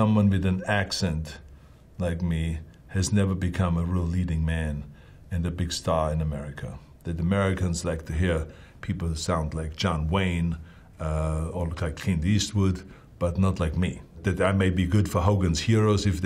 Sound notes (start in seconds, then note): none